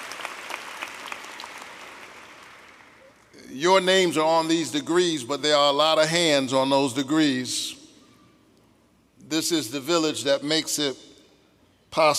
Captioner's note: applause